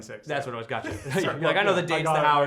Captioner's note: laughs